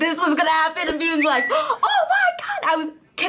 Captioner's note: gasps